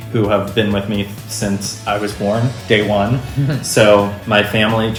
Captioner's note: chuckles